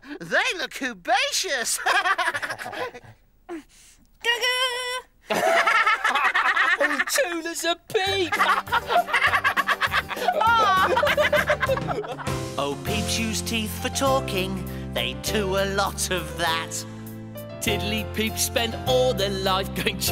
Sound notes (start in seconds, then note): 1.6 laughs; 5.3 Iver and Groove laugh